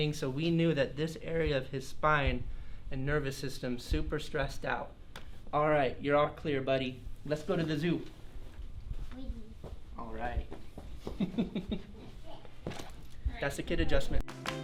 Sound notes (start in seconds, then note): 11.1 chuckling; 14.2 upbeat music